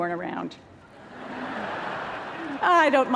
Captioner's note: laughter